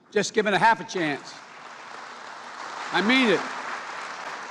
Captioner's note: applause